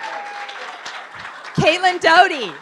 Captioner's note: audience clapping